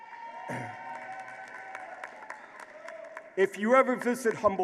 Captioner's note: applause